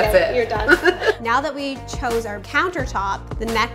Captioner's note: laughing